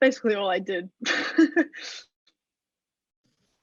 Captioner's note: laughs